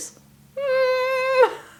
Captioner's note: humming